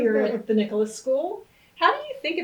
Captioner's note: laughs